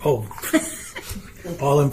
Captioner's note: council Members chuckle